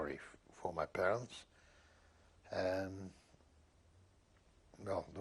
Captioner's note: pauses for 3 seconds